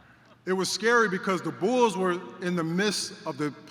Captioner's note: laughter